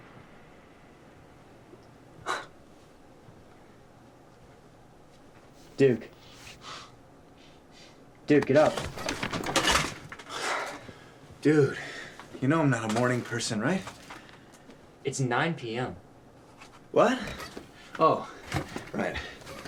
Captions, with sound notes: [Marvin chuckles] Duke. Duke, get up. [clattering] Dude, you know I'm not a morning person, right? It's nine PM. What? Oh. Right.